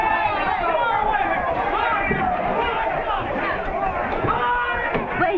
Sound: crowd noise

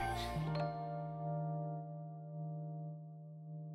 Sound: message ding

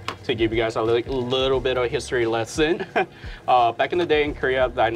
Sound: chuckles

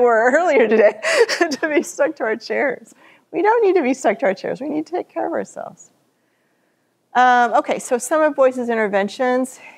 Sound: laughter

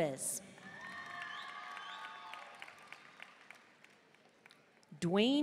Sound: audience cheering and applauding

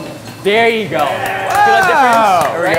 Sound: group cheering

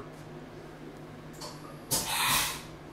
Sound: machine Hissing

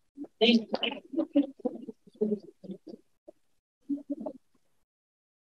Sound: electronically garbled speaking

